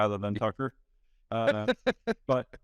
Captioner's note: laughing